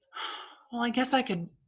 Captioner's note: sigh